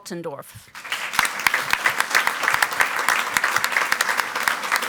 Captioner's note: audience applauds